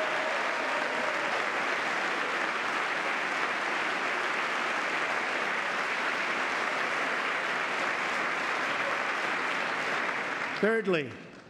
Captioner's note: applause